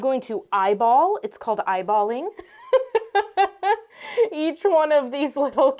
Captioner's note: laughs